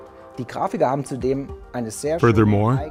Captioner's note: non-english speech